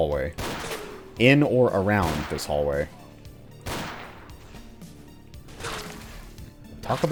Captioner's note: bang; moar BANG